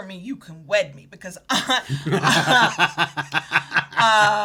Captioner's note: both laughing